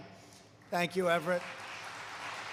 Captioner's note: applause